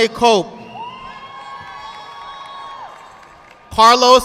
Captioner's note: audience clapping